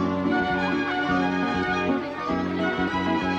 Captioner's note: upbeat instrumental music; chatter